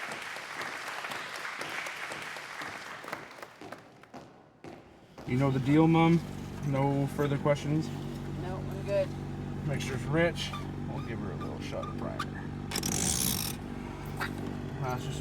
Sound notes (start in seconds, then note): 3.1 footsteps thump in rhythm; 12.7 lever clicks